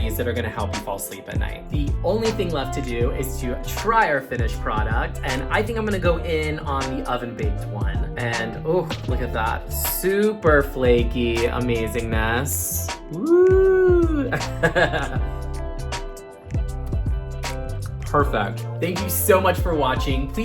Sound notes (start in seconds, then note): 14.0 laughing